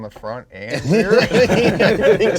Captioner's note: all laughing